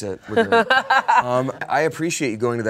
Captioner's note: laughs